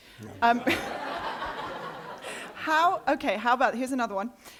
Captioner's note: laughter